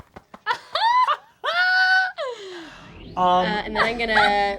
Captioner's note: group laughs